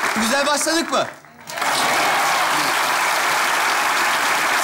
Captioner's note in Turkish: alkış sesleri